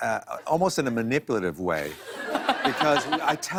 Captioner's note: laughter